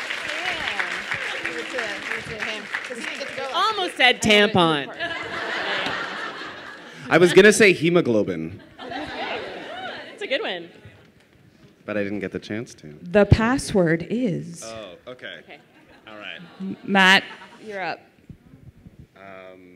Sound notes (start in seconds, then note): 4.9 laughter; 8.5 laughter